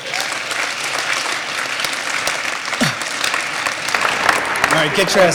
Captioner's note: applause